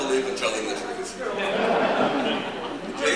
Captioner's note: laughter